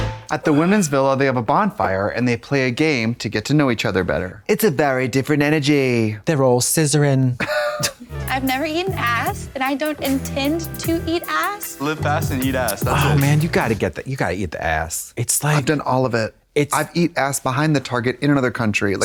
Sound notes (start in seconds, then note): 8.2 blonde Women titter